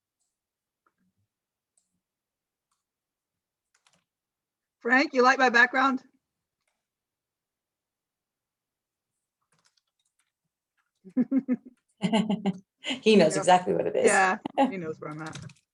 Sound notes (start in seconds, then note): 11.0 laughs